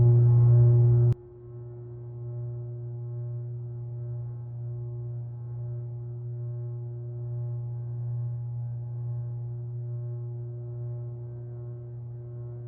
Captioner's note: electric buzz; electric buzz muffled